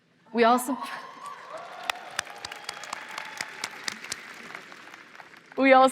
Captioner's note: applause